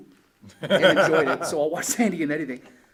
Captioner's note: laughs